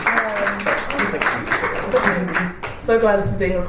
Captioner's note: panellists and audience cheer and applaud